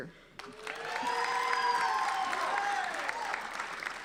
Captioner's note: applauding